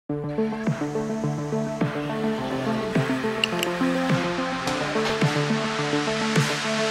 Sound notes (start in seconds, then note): 0.1 building Snythesizer Music; 3.4 click, Click Sound